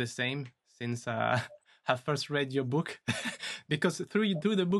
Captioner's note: laughs